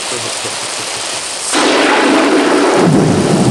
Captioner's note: thunder clapping